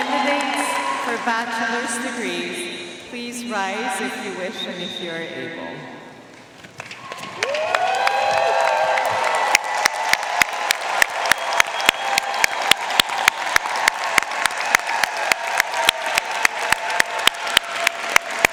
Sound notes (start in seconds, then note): 7.1 audience cheering and applauding